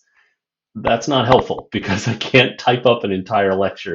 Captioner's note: laughter